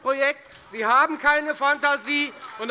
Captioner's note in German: Beifall bei der FDP